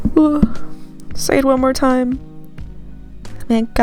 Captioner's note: sigh